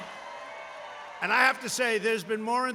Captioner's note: applause